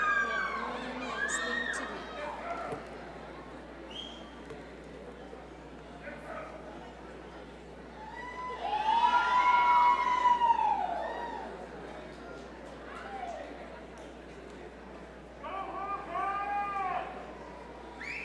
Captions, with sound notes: We have one last thing to do. (crowd cheering)